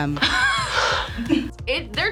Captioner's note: both laugh